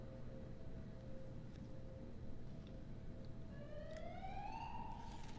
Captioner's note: warning siren begins to blare